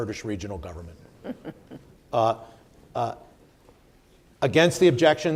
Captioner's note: chuckles